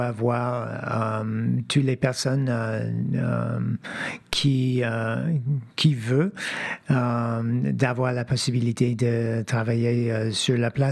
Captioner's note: speaking French